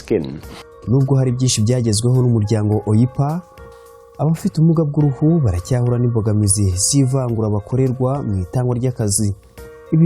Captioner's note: speaking in Kinyarwanda